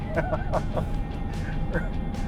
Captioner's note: laughter